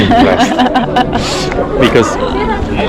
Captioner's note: laughs